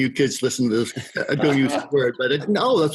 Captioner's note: laughs